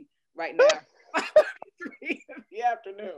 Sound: laughter

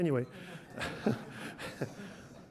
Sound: audience laughs

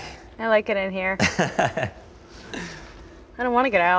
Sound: laughs

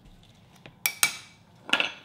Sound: spoon thudding; dish clinking

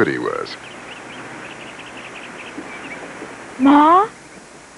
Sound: birds chirping

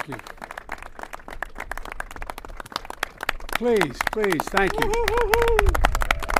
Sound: applause

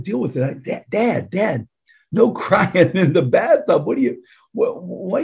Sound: chuckling

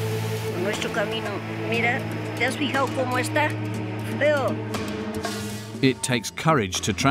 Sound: woman in mauve speaking in foreign language

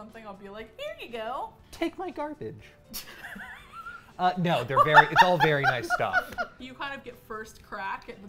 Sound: laughs

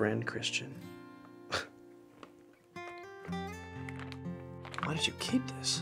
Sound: Christian chuckles

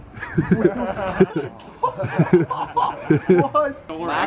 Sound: everyone laughing

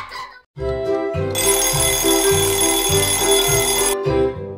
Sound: alarm Clock

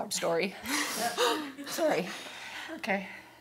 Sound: laughing

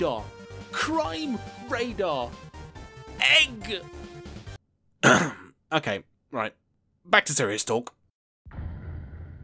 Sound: ahem

